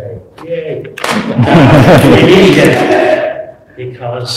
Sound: laughter

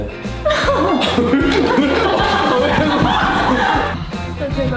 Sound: can't hold laughter in

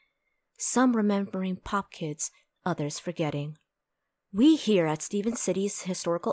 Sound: none

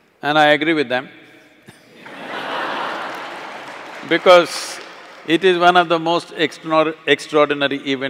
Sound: laughter

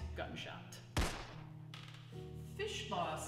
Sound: gun blasts

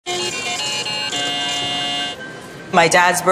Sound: lottery machine winning chime

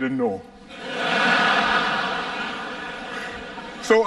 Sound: laughter

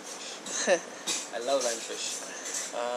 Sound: laughs

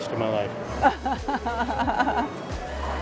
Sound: laughs

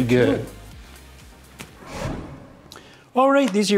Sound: swoosh

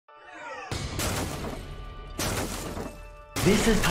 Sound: objects crashing

